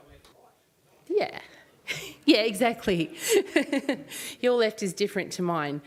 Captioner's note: laughs